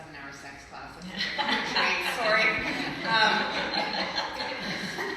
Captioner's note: group laughs